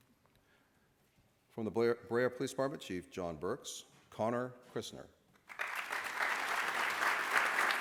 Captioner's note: applause